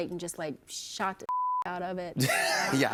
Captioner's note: laughter